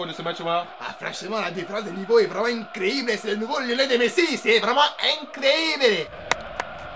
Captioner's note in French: Parle avec l’accent espagnol